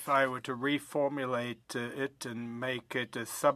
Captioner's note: speaking in French